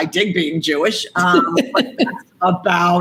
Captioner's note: Gary laughs